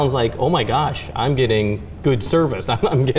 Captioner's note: chuckling